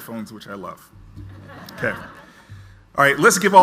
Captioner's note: audience laughs